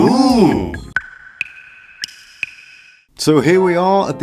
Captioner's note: dripping sounds